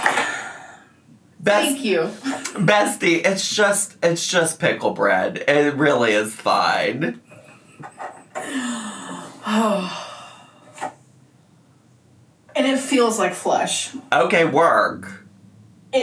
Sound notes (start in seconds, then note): 0.1 exhales; 8.0 laughs; 8.4 sighs